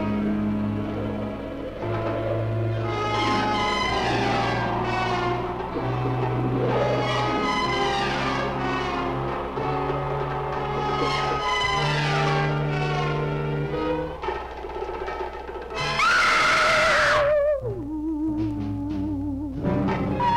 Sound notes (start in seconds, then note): 15.9 bride screams; 17.6 eerie music